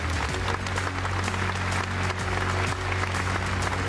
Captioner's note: clapping